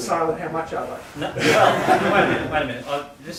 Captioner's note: laughter